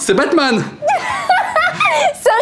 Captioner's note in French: rires